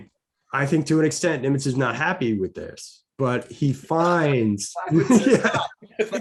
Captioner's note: chuckling